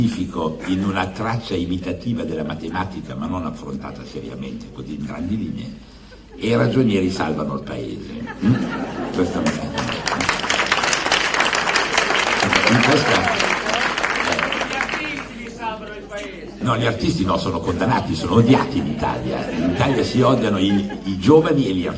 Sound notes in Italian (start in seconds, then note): 7.7 Applauso